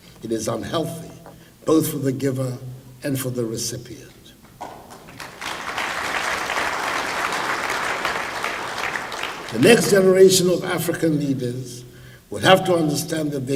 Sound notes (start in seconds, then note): 4.6 applause